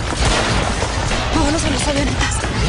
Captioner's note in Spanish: Disparos